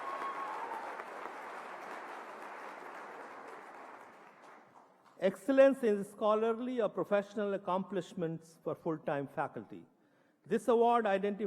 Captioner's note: applause